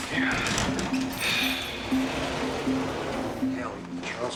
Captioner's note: sighs